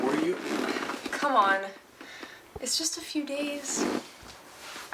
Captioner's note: sighs